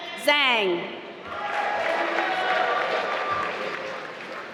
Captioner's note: applause